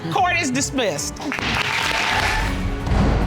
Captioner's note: audience applauding